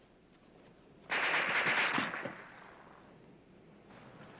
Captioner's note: gun firing